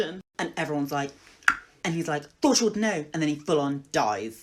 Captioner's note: tongue pop